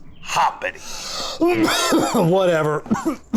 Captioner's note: Alton Coughs